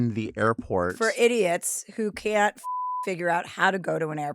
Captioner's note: beep